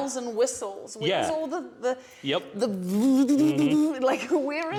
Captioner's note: vibrator noises